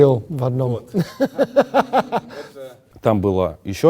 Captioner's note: laugh